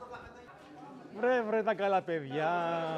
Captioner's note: playful greeting in Greek